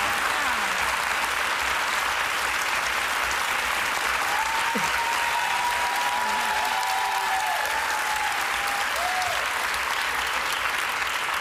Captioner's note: applause